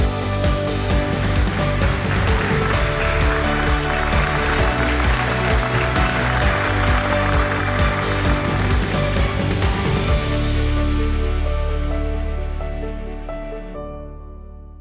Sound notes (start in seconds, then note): 2.2 le public applaudit bruyamment